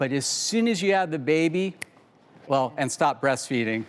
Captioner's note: snaps